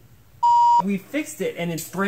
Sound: beep

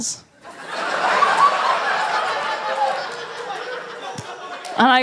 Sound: laughter

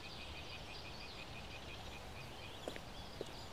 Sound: birds chirping sound

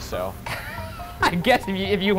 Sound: laughing

